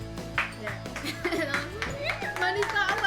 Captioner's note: clapping